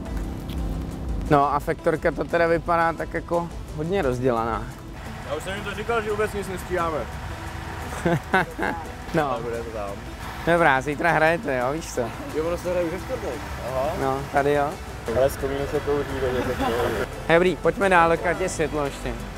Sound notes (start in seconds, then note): 7.7 laughs